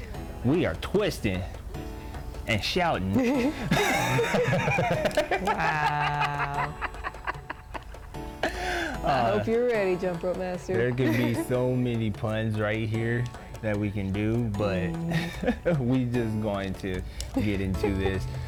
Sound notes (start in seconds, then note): 3.1 both laugh; 6.8 continues laughing